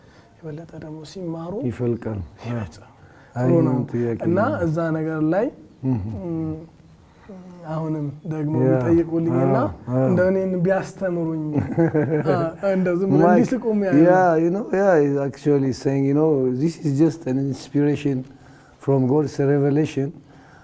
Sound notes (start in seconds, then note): 14.5 laughter